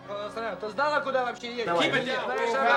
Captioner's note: speaking loudly